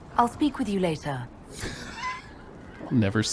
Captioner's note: laughs